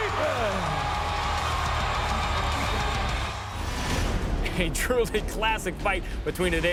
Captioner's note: applause